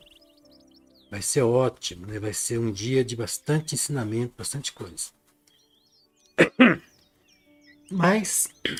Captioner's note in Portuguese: limpando a garganta